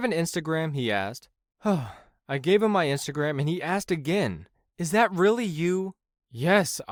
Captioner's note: sigh